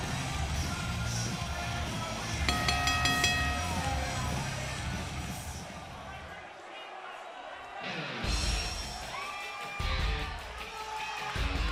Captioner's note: crowd cheering